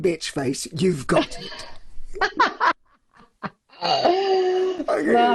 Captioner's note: laughs loudly